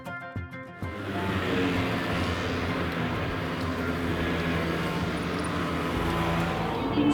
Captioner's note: zoooom, Zoooom, zoooom